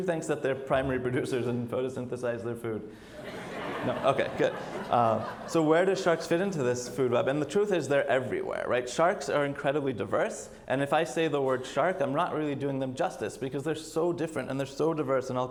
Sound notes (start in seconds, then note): 3.1 audience laughs